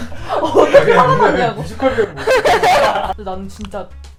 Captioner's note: laughing